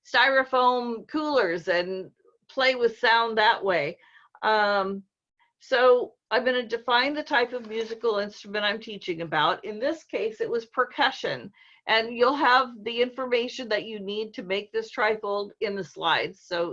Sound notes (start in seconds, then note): none